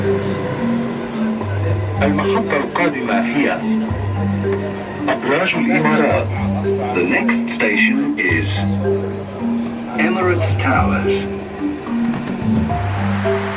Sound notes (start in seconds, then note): 2.4 metro speaker announcing the next station in Arabic